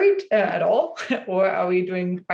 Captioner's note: chuckles